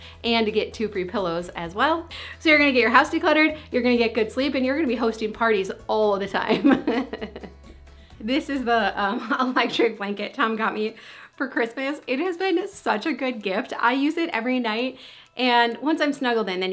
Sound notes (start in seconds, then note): 6.5 laughs